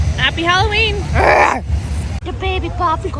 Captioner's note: growling